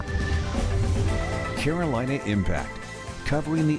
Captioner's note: voiceover